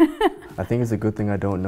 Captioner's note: laughing